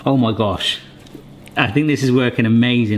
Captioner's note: none